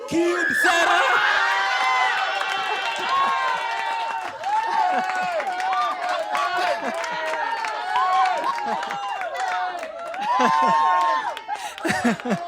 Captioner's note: laughter